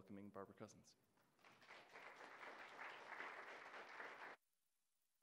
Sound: applause

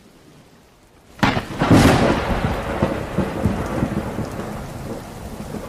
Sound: thunder booms

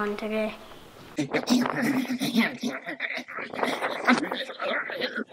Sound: weird alien noises

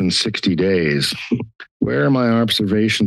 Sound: scoffs

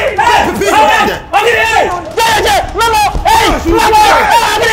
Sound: shouting

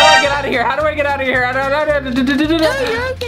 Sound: stutters

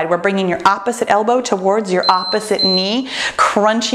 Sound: timer beeps

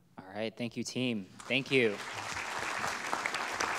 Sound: audience clapping

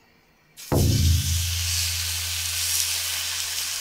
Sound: beautiful grilling sounds

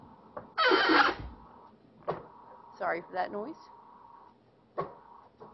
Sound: bed squealing

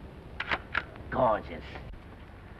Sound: camera clicks

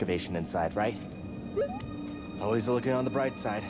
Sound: boop-boop

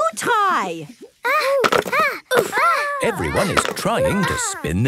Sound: all grunting

